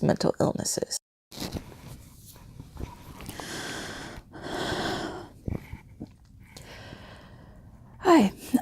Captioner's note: breathing deeply